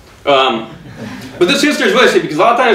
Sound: audience chuckling

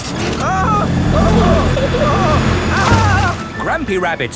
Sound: grandpa screaming

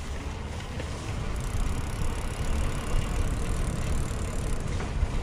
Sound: chain whirring

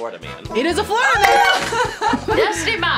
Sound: laughs

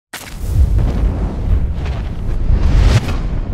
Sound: whooshing

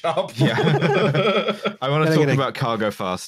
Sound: laughter

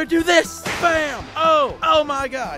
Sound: lightning strikes

